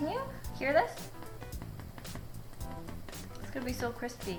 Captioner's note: tap Tap; tapping